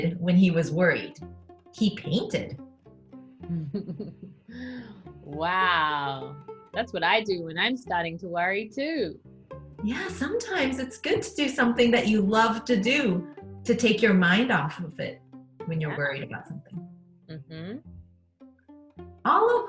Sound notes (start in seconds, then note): 3.5 giggles